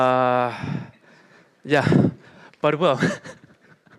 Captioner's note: laughs